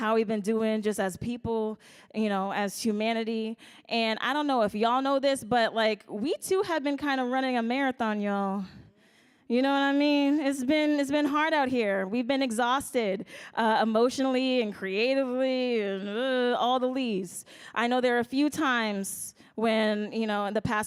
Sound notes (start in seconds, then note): none